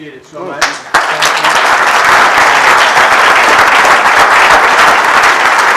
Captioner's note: applause